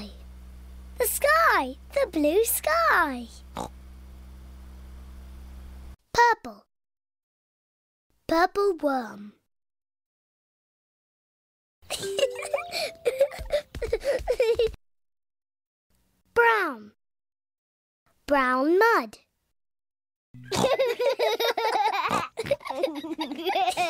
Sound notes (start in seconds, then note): 11.9 peppa giggles; 20.4 snorting and laughing